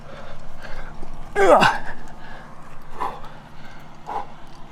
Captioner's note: loud Grunt